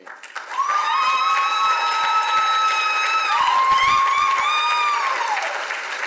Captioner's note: audience applauds and cheers